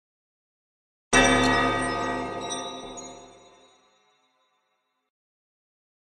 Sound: church bell

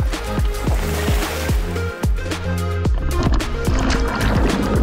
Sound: upbeat music continues; water splashes

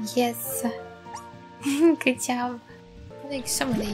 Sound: giggle

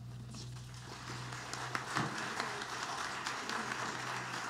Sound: audience applauding

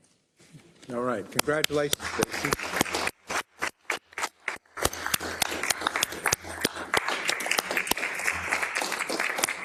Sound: applause

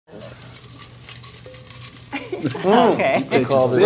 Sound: shuffles paper; laughter

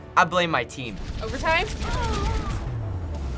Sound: Mercy groans

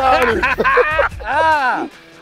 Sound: laughter

